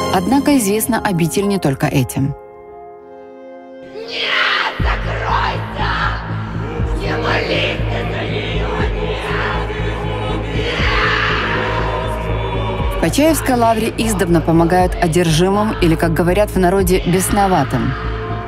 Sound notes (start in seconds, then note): 10.1 scream